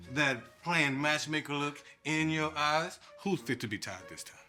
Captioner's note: none